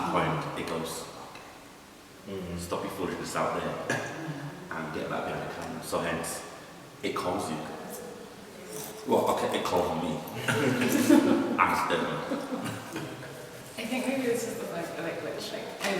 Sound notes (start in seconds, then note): 10.4 laughter; 10.4 laughs